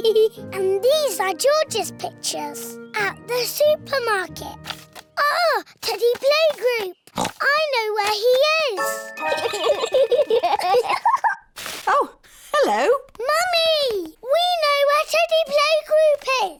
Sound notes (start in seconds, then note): 7.1 oinks; 9.3 both giggle